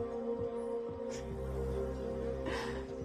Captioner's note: laughs softly